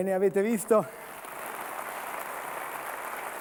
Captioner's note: Applauso